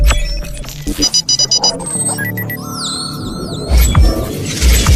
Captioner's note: computer beeping continues